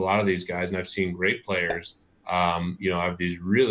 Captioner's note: popping sound